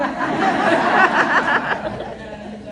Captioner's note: laughter